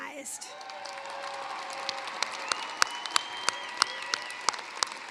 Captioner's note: cheering, applause